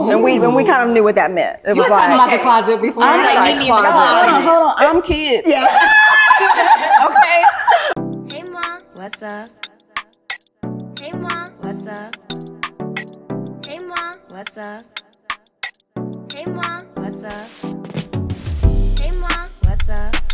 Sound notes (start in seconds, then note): 5.4 all laugh